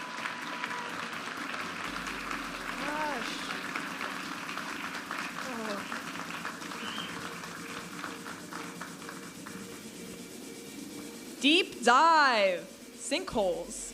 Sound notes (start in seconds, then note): 0.1 audience applauding and cheering; 2.0 upbeat music; 4.3 audience applauding; 8.3 upbeat music